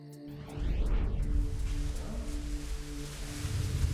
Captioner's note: bubble wrap rustling